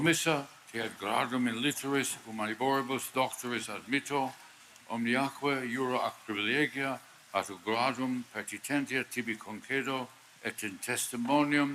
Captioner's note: speaking Latin